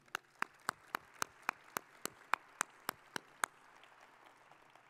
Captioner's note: audience applauding